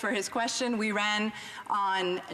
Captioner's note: speaking in French